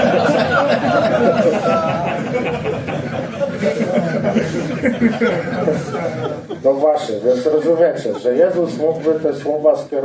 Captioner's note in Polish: śmiech